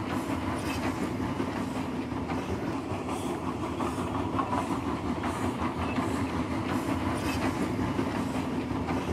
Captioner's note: sound of train passing